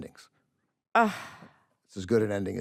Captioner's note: sighs